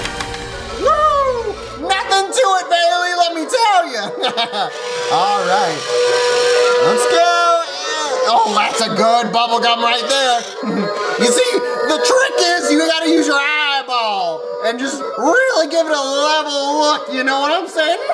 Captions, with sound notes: - Woo-hoo! Nothing to it, Bailey, let me tell ya. (laughs) All right. Let's go and, oh that's a good bubble gum right there. You see, the trick is really gotta use your eyeball and just really give it a level look, you know what I'm sayin'?